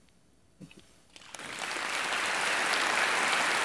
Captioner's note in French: Applaudissements